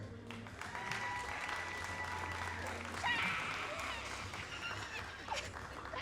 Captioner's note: all applauding